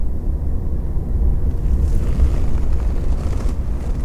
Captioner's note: wind blowing